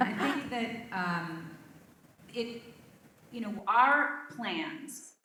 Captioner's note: laugh